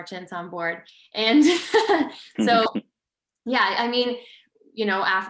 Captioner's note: laughs